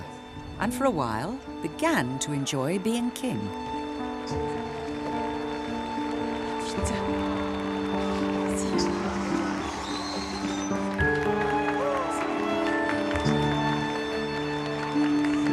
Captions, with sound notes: And, for a while, began to enjoy being king. (gentle music) (people clapping) (women speaking in French) (gentle music) (people clapping)